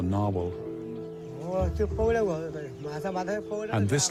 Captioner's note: speaking native language